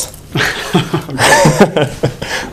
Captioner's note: laughter